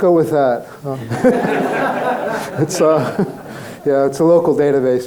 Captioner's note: crowd laughing